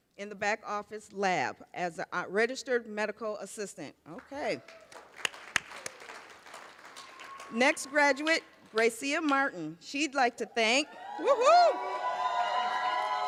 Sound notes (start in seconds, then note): 4.5 cheers, applause